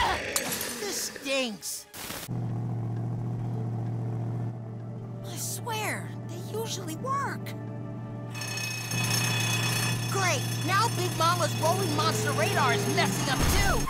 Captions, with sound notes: This stinks. I swear, they usually work! [bell ringing] Great, now Big Mama's Rolling Monster Radar is messing up too.